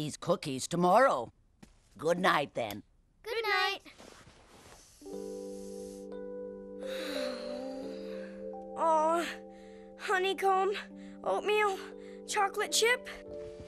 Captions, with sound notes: GOODNIGHT. [ SNIFFING ] [ SIGHING ] AW, HONEYCOMB, OATMEAL, CHOCOLATE CHIP...